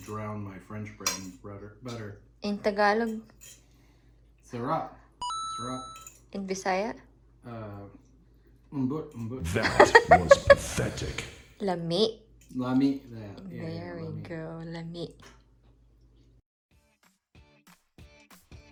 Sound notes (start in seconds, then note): 5.8 coin drop; 9.4 laughing